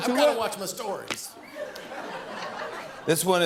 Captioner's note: laughter